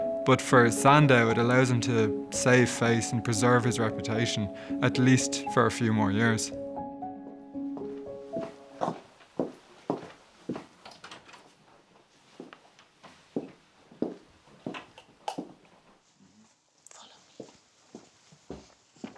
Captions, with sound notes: But for Sandow, it allows him to save face, and preserve his reputation. At least for a few more years. (footsteps in hallway) (door opening)